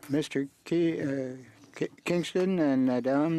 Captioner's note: speaking French